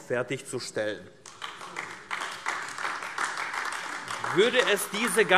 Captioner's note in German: Beifall AfD